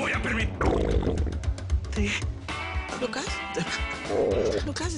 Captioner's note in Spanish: Rugido de las tripas